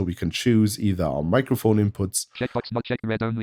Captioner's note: automated voice